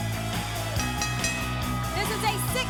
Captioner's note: bell dinging